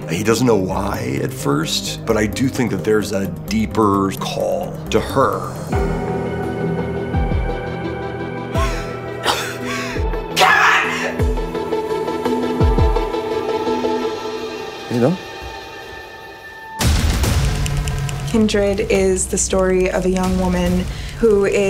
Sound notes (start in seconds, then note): 5.7 dramatic music; 8.5 gasps